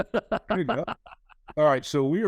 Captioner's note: chuckles